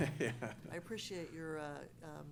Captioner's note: laughing